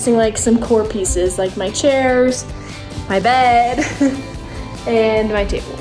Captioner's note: chuckles